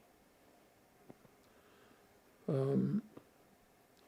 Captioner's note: pauses 6 seconds